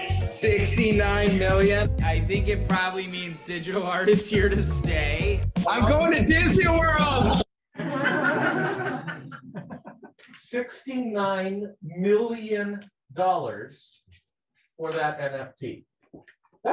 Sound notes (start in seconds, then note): 7.7 people laughing